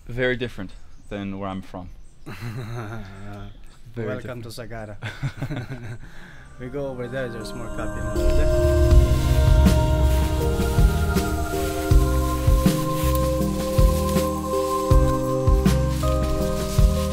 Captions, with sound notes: That is very different than where I'm from. (laughing) - Welcome to Sagada. We go over there, there's more coffins. (ethereal music)